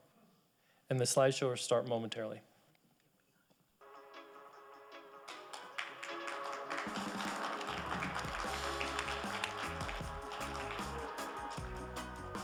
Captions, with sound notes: And the slideshow will start momentarily. (celebratory music) (audience applauding)